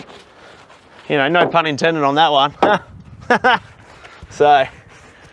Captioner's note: laughs